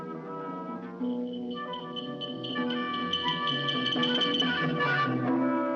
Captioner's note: bracelets Jingling